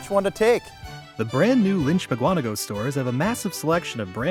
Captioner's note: voiceover